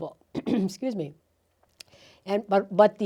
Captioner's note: clearing throat